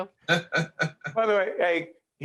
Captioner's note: laughing